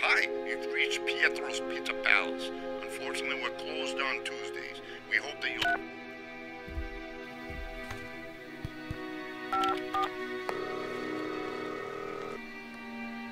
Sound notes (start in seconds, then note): 7.0 telephone beeps; 8.6 finger tapping; 9.5 telephone beeping; 11.3 line ringing